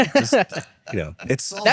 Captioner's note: laughing